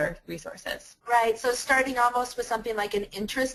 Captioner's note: voiceover